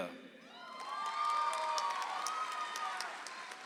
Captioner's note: audience applauds